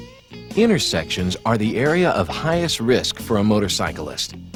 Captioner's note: voiceover